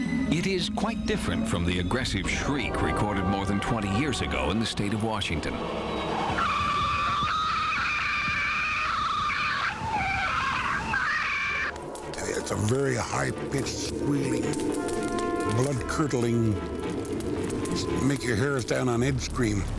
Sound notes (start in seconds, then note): 5.3 shrieking